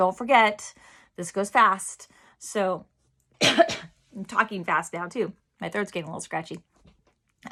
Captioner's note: coughing